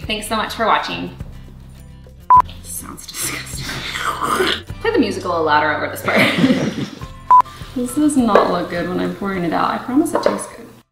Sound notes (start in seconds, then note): 4.0 mimics sloshing; 6.0 laughing